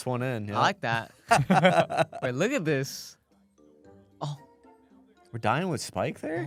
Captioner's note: laughs